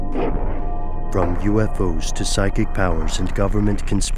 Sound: voiceover

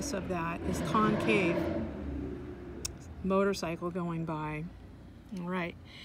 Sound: motorcycle going

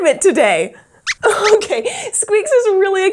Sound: squeaks squeaks

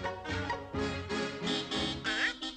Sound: horn honking

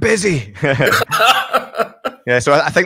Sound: both laugh

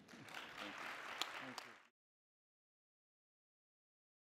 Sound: applause

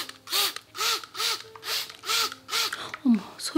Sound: spray bottle working hard

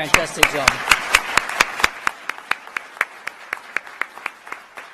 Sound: applause

